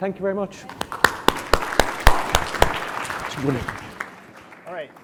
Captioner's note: audience clapping